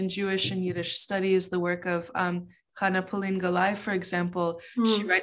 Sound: speaking in Yiddish

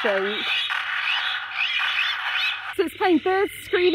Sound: gunfire and gulls screaming

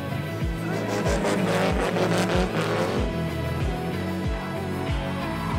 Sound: SR20 Engine Reving

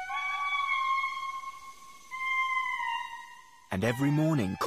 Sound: lemurs howling

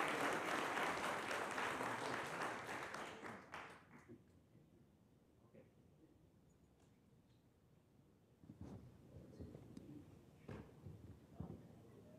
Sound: applause

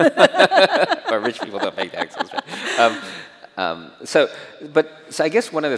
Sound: chuckles

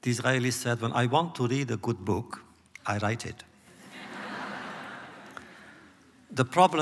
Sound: laughter

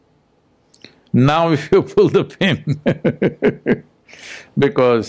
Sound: laughs

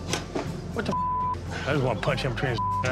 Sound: beep

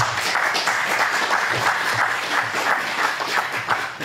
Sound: audience applauds

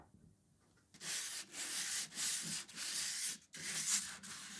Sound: sanding

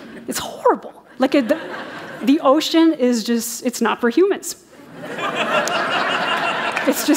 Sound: laughter

